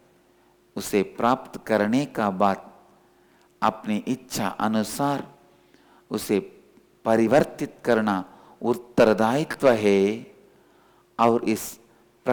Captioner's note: hindi